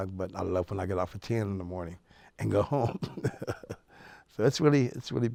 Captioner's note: laughs